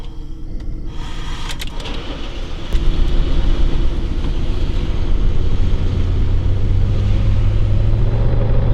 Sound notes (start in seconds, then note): 1.0 engine starts; 1.1 Scott shuddering